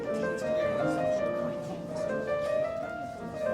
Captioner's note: indiscernible chatter